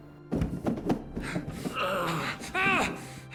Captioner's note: grunting